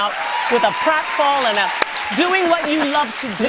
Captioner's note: cheers and applause